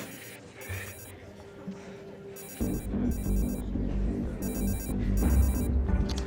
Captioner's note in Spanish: Suena el celular